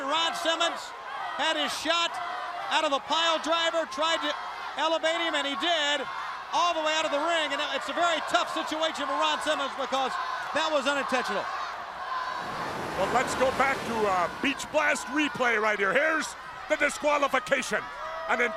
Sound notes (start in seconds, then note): 12.2 crowd cheering